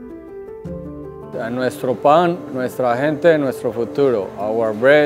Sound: mellow music continues; speaking in foreign language

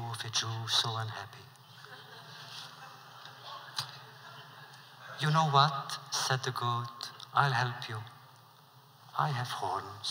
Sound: laughter

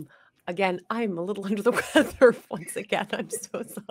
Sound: chuckles

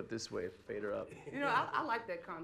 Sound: laughter

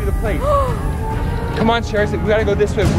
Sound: gasps

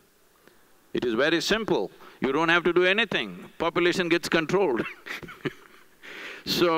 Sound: laughs

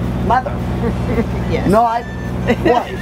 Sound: laughing

